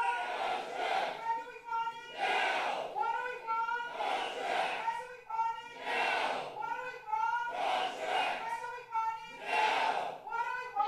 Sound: protesters shouting

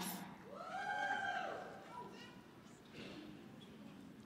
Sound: scattered cheering

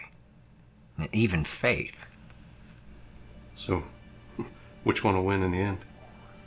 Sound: none

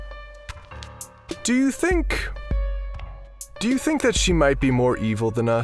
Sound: footsteps

